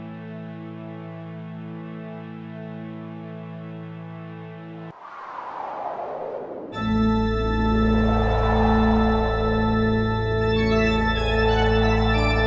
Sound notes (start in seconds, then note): 5.3 wind blowing; 6.8 cheerful organ music